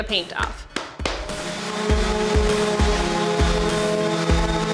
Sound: sander whirring loudly

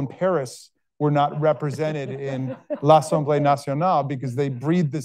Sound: speaking foreign language

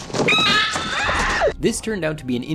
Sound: screaming

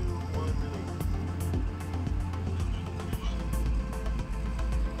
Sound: background propeller, power generator

